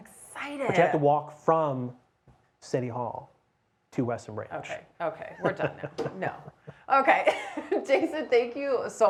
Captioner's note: laughs